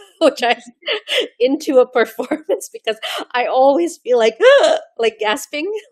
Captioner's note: gasps